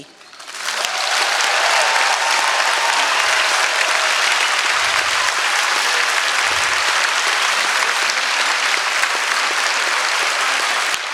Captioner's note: applause